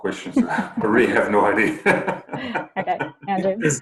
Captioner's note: laughs